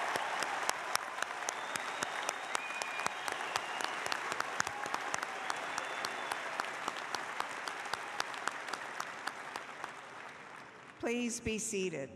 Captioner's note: applause